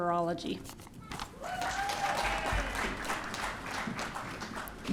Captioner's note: audience cheering